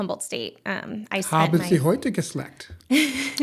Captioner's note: speaking german; laughter